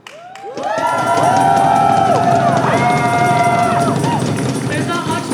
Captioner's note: crowd cheering for solidarity